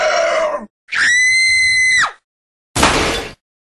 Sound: screams

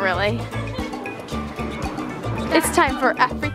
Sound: laughing

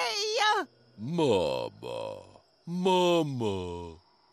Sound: deep male voice

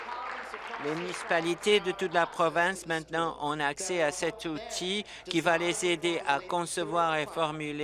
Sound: applause

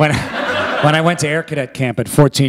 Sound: laughter

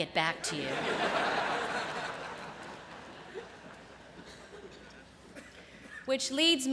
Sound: laughter

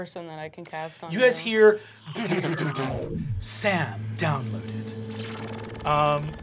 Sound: mimics sound waves

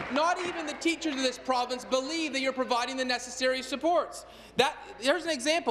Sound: applause

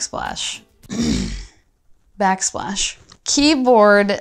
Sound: clears throat

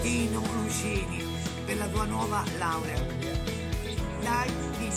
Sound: speaking italian

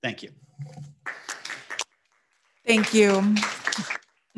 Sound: audience applauding

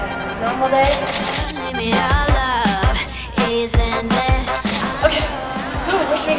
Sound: camera shutter clicking

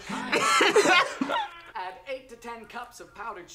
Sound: both laugh

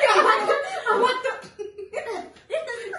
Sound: laughing; speaking in italian”

